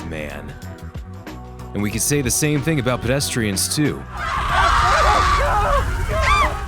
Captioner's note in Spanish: Sonido de los Peds Quemándose